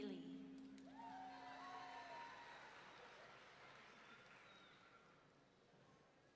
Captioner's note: audience members cheering